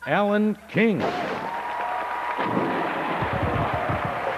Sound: applause

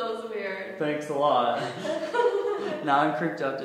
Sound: both laugh; laughs

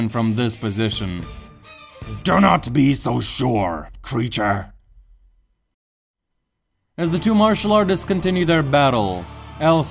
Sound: bang

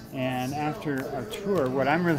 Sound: none

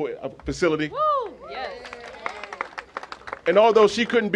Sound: cheers and applause

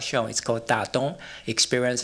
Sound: non-english

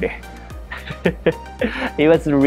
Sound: chuckles

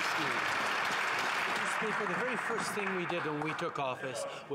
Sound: some Applause

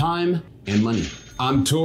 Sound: cash register ringing

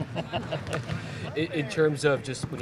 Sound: laughing

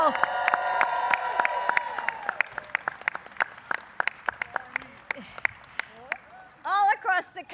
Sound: applause

